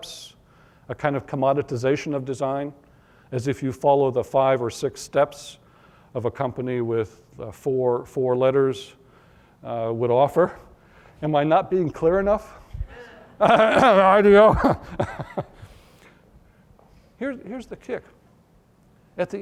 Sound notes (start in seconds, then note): 13.5 clears throat; 17.0 chuckle